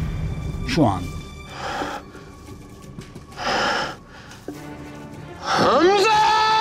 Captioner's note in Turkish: Müzik - Gerilim; Derin soluk alma sesi